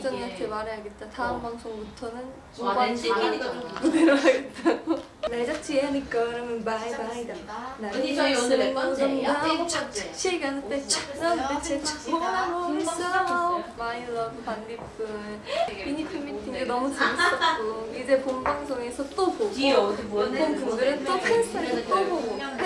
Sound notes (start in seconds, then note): 7.7 making the beats with lips